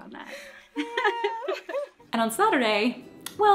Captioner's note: laughing